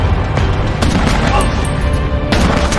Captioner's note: gunshots